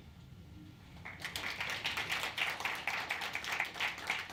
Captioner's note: applause